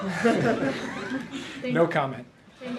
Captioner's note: laughter